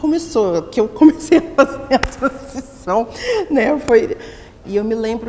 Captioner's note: laughing